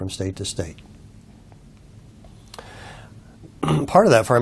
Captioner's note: cough